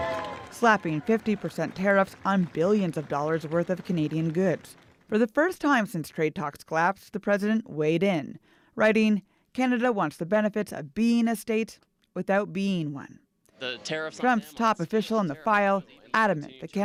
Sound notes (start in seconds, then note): 1.7 applause